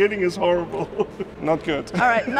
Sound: laughing

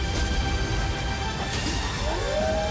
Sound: howling

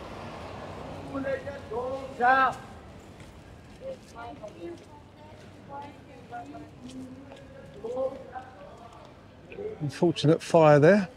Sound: chanting

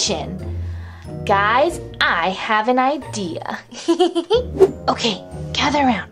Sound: giggling

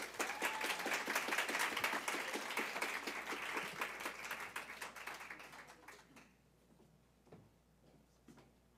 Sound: applause

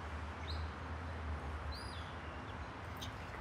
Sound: bird chirps

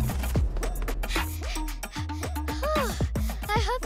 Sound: panting

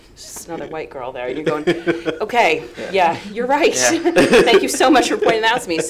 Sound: laughs

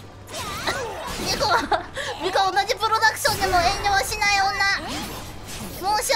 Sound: laughing

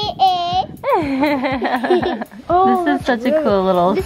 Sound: laughing

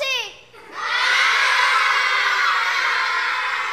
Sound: students laughing

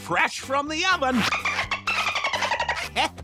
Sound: dolphin clicking

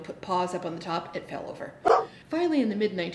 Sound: dog barking

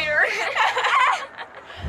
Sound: laughing

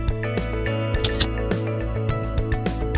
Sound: camera Shutter Sound

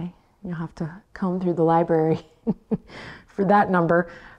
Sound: laughs

